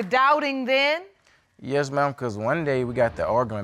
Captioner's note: none